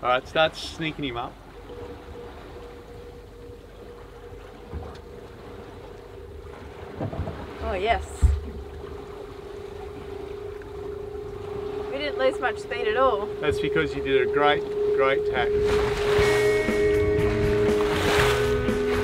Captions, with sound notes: - All right, start sneaking him up. - Oh, yes. (whirring) We didn't lose much speed at all. - That's because you did a great, great tack. (upbeat music)